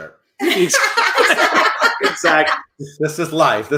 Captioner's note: laughing